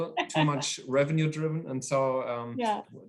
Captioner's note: laughing